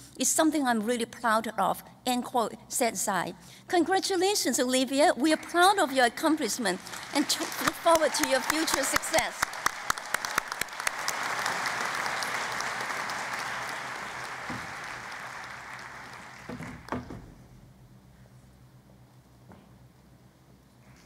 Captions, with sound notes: is something I'm really proud off," said Tsai. Congratulations, Olivia. We are proud of your accomplishment and we look forward to your future success. [ Applause ]